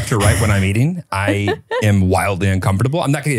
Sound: laughs

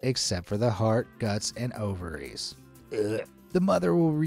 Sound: gag hilariously

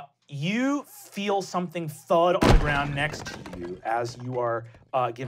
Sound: thudding

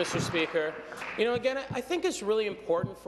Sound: applause

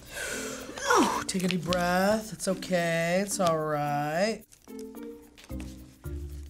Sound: sighs

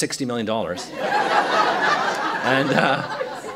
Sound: laughter

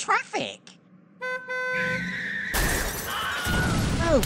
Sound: traffic accident and man screams

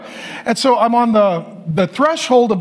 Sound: none

